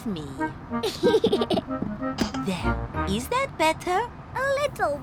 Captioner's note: giggles